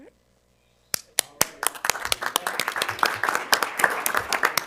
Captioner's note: audience applauding